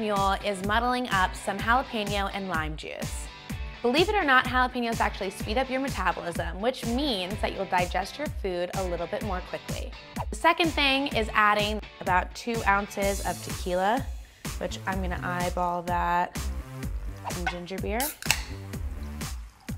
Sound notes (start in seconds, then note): 18.0 metal snapping; 18.8 upbeat music